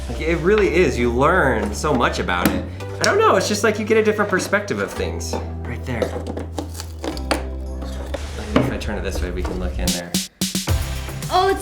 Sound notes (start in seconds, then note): 7.4 board creaking